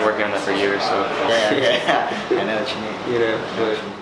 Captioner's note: laughs